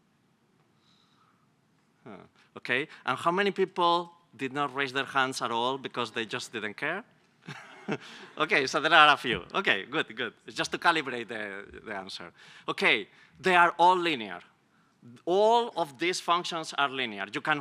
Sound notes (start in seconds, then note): 7.4 laughs